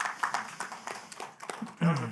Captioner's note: applause